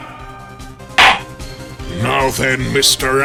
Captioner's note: gavel slams!